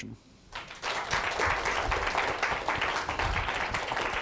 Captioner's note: applause